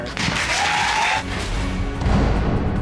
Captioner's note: audience applauding, cheering